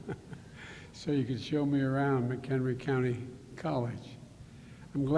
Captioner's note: laughs